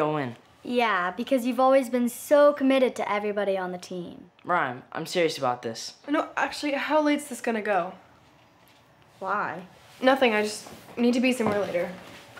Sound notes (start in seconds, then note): none